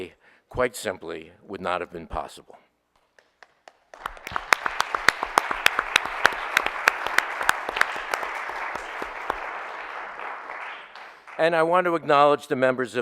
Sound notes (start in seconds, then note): 3.5 audience applauding